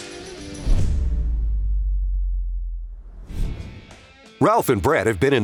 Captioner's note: screen whooshes